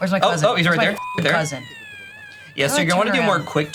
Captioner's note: beep